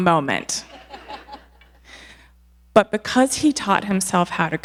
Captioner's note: audience laughing